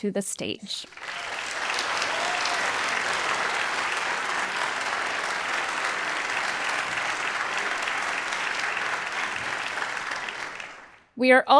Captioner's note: applause